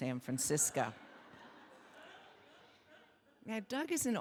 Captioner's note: audience laughing